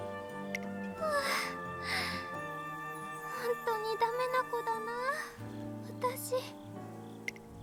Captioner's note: sigh